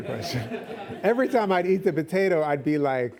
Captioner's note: laughs